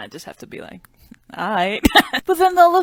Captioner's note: laughs